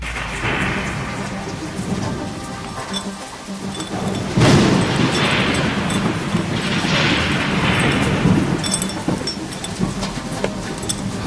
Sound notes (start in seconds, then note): 0.0 thunder; 2.5 dreamy electronic music; 6.0 thunder